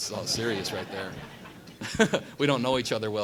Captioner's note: laughter